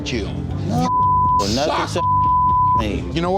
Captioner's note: arguing